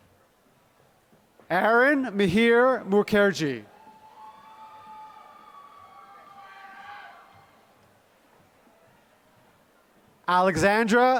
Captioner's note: applause